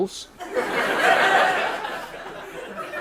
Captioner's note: laughter